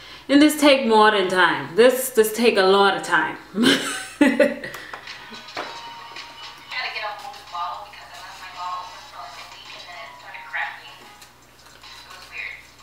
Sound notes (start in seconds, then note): 3.6 laughing; 6.9 distant talking